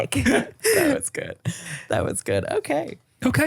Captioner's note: laughing